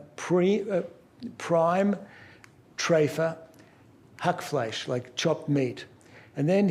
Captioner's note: non-english speech